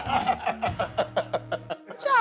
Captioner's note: laughter